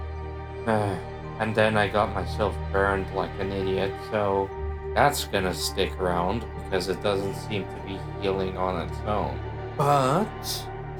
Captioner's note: sigh